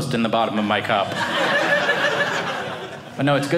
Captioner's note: audience laughing